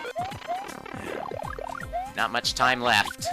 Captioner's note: sigh